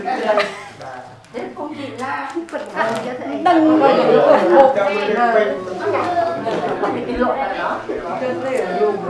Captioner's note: chattering